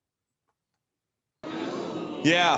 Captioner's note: audience boos